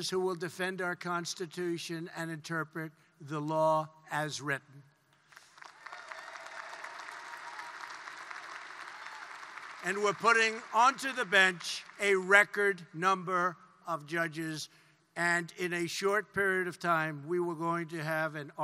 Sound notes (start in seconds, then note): 5.2 applause